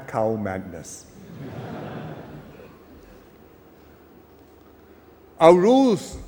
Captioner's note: laughter